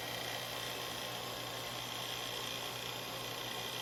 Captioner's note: machine buzzing